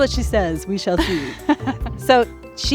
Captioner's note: laughs